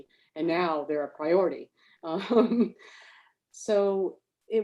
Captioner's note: laughs